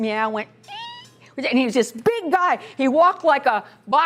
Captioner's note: imitates high pitch meow